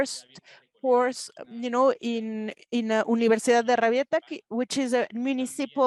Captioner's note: speaking Spanish